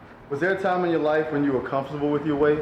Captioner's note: voiceover